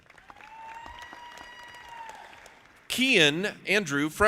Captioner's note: audience applauding